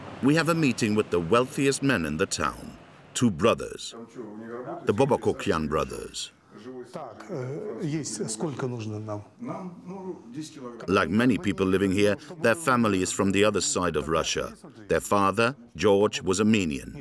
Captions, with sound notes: We'll meet the wealthiest men in the town. Two brothers, the Babakokhian brothers. [Russian spoken audio] Like many people here, their family is from the other side of Russia. Their father, George, was Armenian.